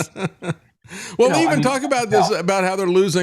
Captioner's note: laughing